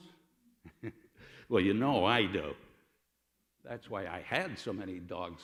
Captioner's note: laughter